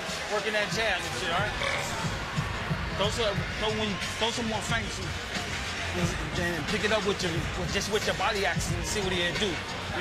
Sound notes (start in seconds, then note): 1.4 burps